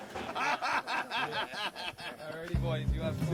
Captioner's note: laughing